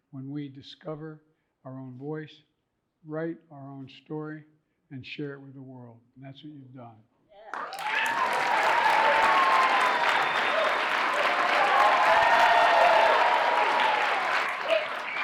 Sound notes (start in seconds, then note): 7.5 audience applauding and cheering